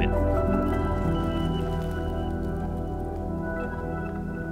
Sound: food sizzling

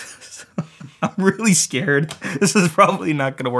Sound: laughs

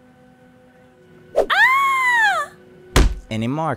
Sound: body thumps

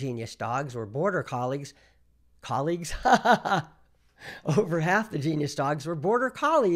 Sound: laughs

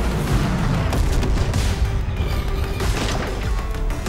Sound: lasers blasting; explosion sounds

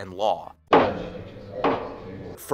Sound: gavel sound effect

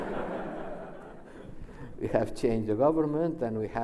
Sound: laughs

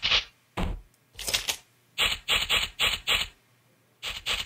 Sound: That sounded like a gun reloading also Henry digs through sand!

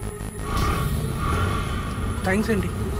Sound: engine revving

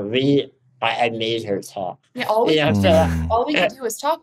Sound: laughs

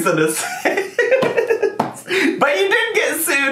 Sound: laughing

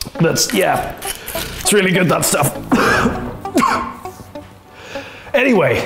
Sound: continues choking

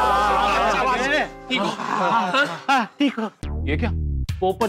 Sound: sighs

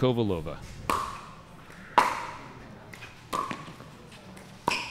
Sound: ball bouncing

